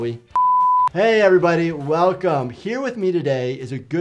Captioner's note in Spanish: pitidos de transmisión